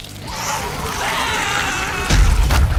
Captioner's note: screams